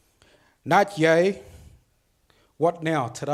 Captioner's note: speaks foreign language